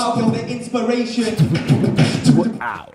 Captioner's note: record scratch